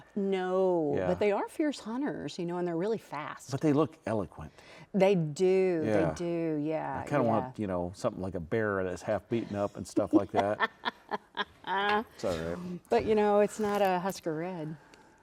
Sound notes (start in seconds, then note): 10.0 laughing